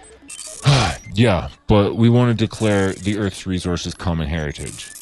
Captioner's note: sigh